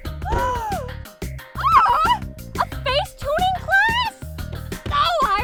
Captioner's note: gasp